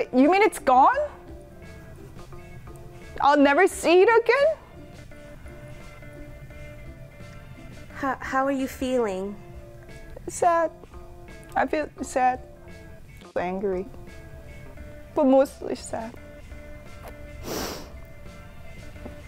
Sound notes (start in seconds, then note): 17.0 sniffs